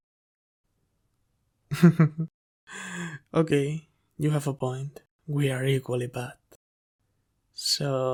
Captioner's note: laugh